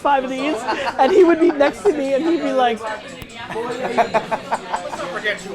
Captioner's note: laughs